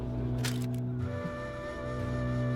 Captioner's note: camera clicks